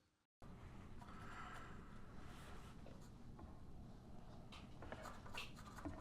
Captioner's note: pencil scratching